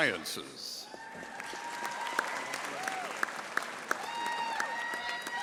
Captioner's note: audience applauding